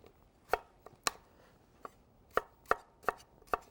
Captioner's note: knife thudding